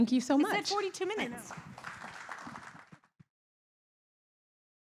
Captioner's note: applause